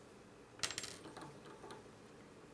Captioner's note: clattering